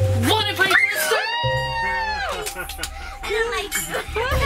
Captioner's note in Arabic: الصراخ